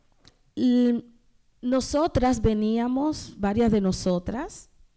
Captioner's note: speaking spanish